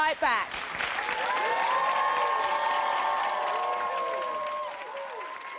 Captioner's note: audience applauds